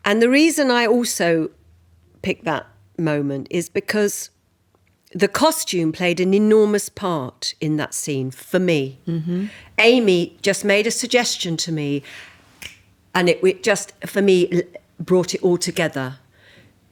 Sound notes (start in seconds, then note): 12.6 fingers snapping